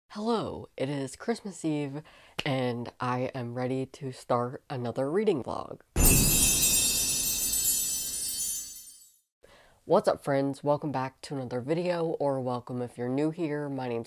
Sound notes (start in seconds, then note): 6.0 loud chimes